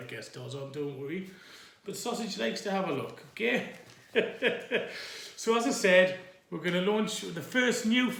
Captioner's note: i laugh again